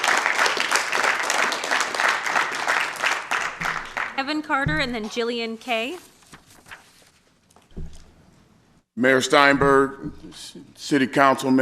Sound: applause

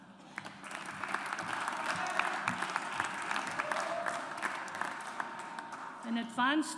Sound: audience applauds

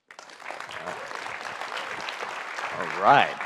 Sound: audience clapping

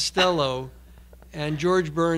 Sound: laughing

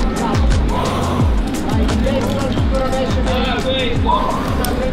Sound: exhaling

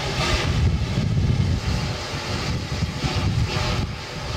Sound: steam hissing

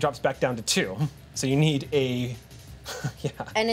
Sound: laughs

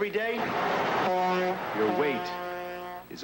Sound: truck honks twice

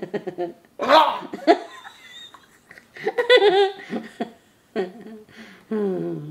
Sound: makes silly groaning noise

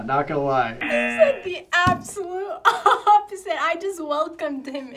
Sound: buzzer rings

